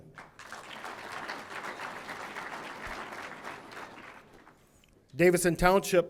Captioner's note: audience applauding